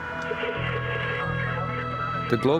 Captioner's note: radio static crackling